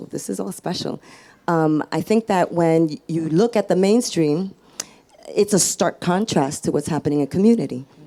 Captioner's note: none